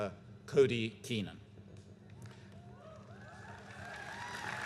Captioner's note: applause